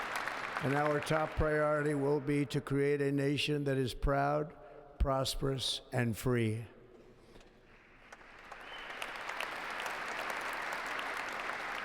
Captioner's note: applause